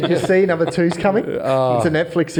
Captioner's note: all laugh